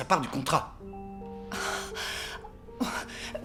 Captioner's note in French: soupirs